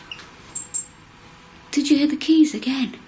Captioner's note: keys jingling